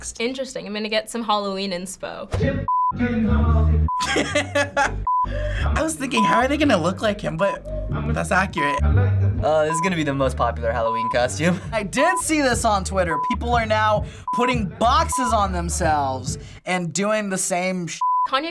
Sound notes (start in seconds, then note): 4.0 laughs